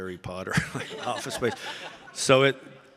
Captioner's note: audience laughing